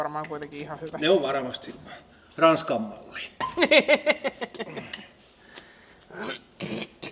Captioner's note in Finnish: naurua